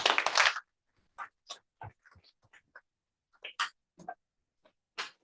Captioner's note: applause